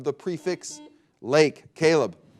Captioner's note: buzzer beeping